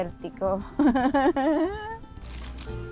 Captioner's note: laughs